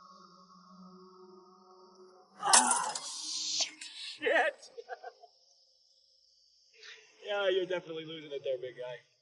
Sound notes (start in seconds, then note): 2.4 glass shattering; 4.1 laughing